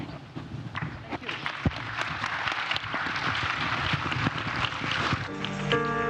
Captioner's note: audience applauds